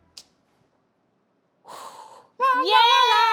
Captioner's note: exhales; cheer